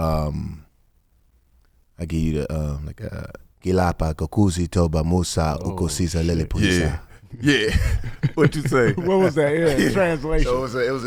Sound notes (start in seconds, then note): 2.6 speaking in foreign language; 5.6 laughs